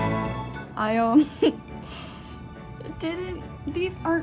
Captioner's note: laughs